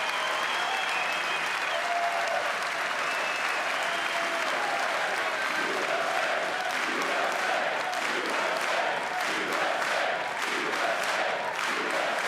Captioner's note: cheers and applause